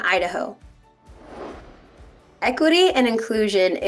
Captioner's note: air whooshing